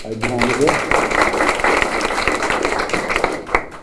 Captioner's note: applause